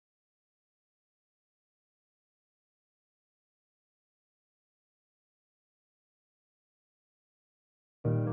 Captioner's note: silence; acoustic piano music